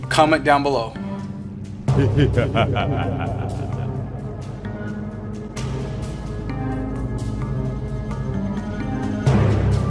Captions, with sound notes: Comment down below. (ghostly laugh) (ghostly music)